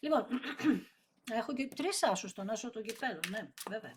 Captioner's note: dry cough